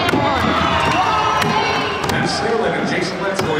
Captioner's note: crowd cheers